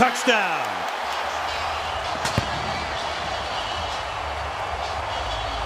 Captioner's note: cheering